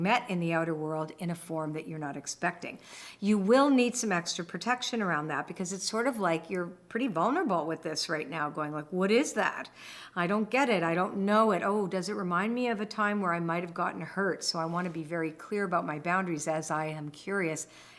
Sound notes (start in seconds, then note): none